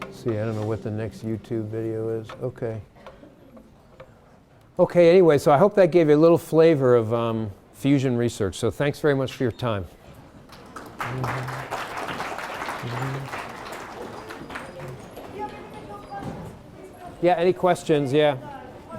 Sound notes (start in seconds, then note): 10.5 applause